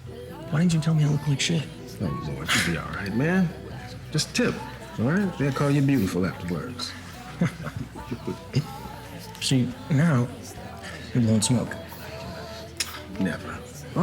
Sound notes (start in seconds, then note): 0.0 chuckles; 5.7 chuckles